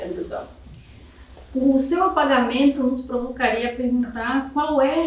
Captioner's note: speaking portuguese